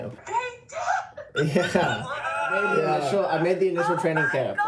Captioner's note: cheering